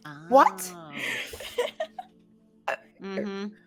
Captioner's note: laughing